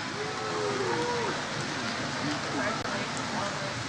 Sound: crowd members cheer

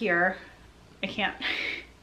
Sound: sighing

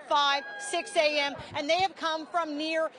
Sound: cheering

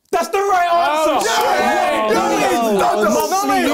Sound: both cheering

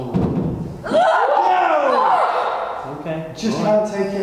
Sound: screaming

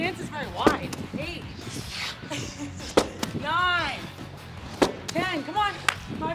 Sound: laugh

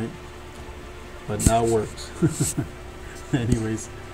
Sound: chuckles

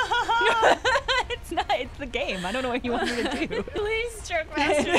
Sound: laughter

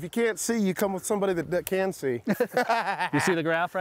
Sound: cackles

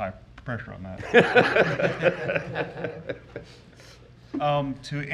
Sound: board members laughing

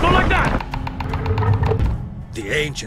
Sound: stone lid slides off

